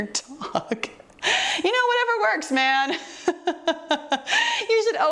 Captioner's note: laughing